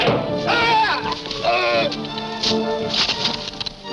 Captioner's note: man shouting